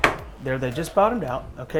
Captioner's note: table clicking